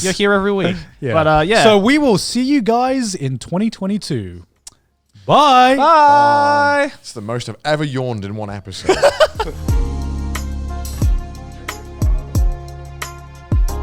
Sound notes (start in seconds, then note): 8.8 laughs; 8.9 soft upbeat music